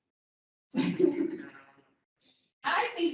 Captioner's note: laughs, inaudible